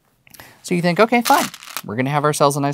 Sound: stones rattling

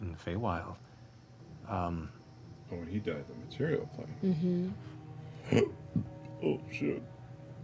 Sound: gulps

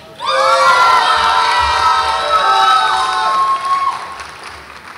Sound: audience applauds and cheers

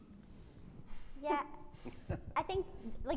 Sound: laughing

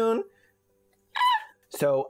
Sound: terrified queer squawking

